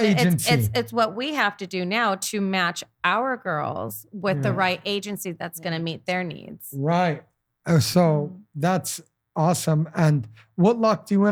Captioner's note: laughing